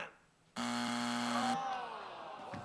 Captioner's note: buzzer